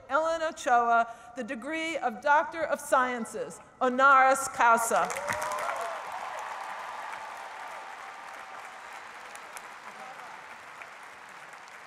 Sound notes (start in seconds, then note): 5.0 cheering and applause; 7.2 speech drowned out by applause